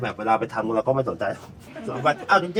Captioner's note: laughing